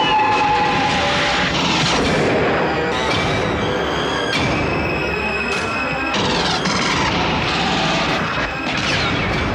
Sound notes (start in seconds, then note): 5.9 tires squealing